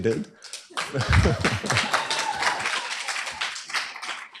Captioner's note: cheers, applause